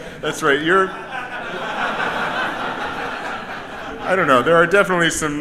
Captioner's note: audience laughs